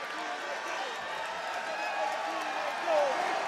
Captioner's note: crowd cheer